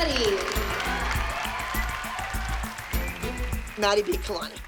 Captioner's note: cheering and applause